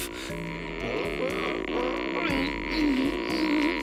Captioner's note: groaning